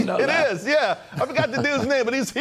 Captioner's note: laughter